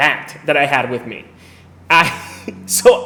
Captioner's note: laughs